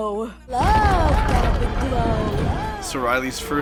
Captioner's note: echoing